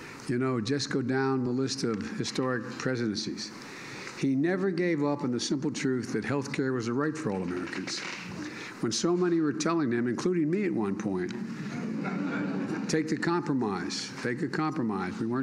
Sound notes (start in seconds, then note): 11.6 laughter